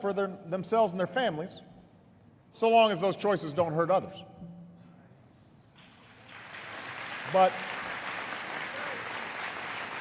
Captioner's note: applause